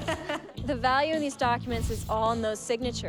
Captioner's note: laughter